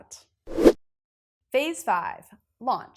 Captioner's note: graphic whooshes